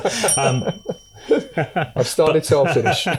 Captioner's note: laughter